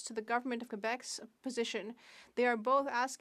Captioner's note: speaking French